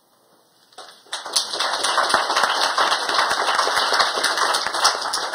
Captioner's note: applause